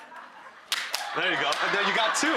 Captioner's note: audience laughing; slap